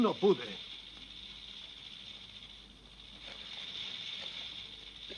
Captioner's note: sonajeros de serpientes